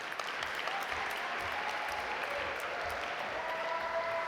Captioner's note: audience applaud